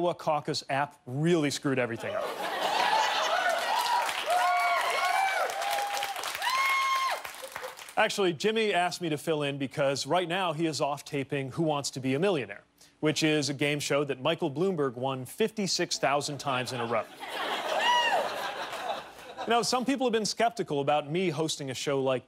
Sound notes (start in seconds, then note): 7.7 cheers and applause